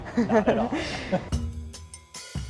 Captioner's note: laughing; upbeat music